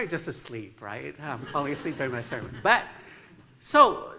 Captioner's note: laughter